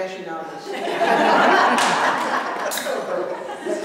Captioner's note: laughter